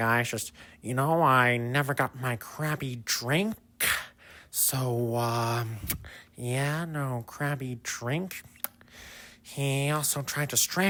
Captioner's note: lip smack